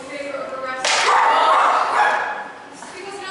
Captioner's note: CHORUS cry out in anger